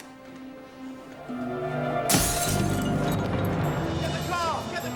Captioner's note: glass shattering